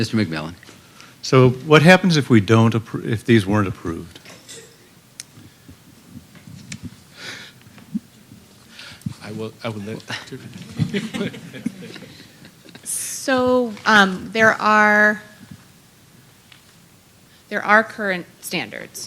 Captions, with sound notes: >> MR. MCMILLAN. >> SO, WHAT HAPPENS IF WE DON'T APPROVE-- IF THESE WEREN'T APPROVED? >> I WILL- [ LAUGHTER ] >> SO, THERE ARE-- THREE ARE CURRENT